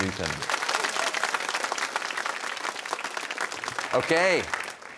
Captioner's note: applause